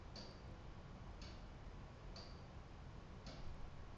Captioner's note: clock ticking